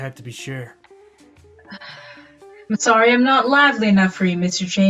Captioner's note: sighs